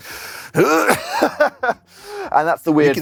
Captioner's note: laughs